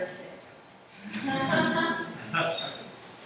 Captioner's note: laughter